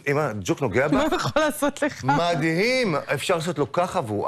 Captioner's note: laughter